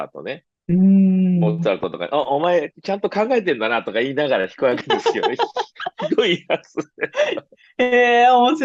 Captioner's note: laughs